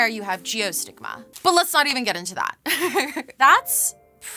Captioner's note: laughs